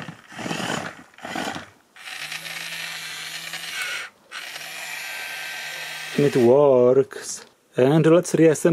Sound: the toy making a lot of noises

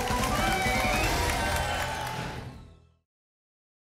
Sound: whoosh

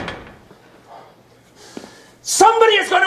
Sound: sighing

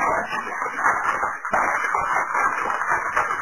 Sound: fire crackling

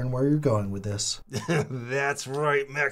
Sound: Chad laughs

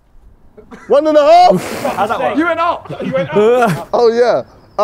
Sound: men laughing

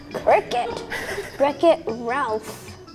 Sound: laughing off camera

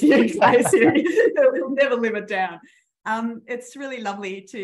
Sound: laughing

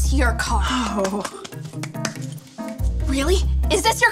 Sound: claps loudly

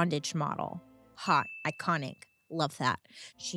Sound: bell rings

